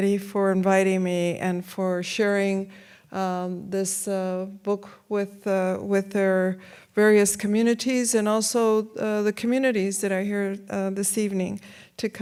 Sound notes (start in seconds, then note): none